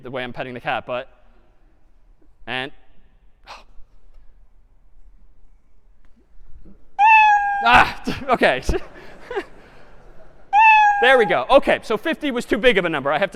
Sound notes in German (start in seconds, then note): 3.4 seuffen; 7.0 miauen; 8.1 gelachten